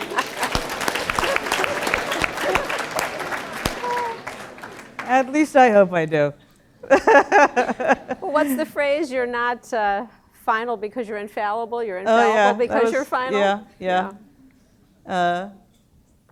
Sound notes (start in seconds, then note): 0.0 laughter; 0.0 applause; 6.8 laugh